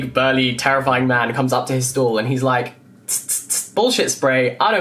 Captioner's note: sprays